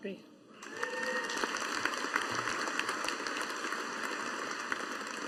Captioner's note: audience applauding